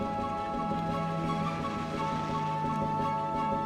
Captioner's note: airplane droning